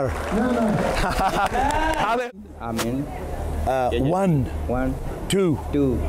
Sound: laughter

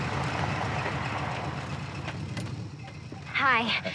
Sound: vehicle approaching

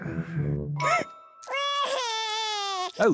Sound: sobs

